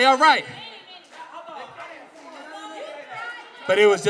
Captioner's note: all clamoring